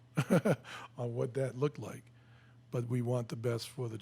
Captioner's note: laughs